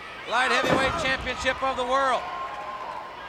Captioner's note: body thudding